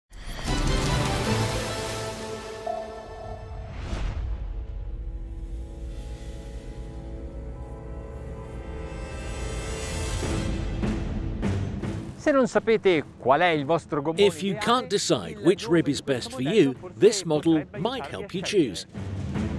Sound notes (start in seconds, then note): 4.9 dramatic music; 14.3 voiceover